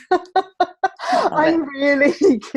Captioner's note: laughing